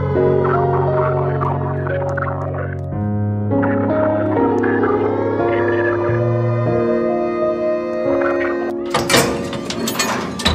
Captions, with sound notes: Wear appropriate eye coverings or turn away. Leave the 5-mile danger zone immediately. Attention all- (hatch opening sound)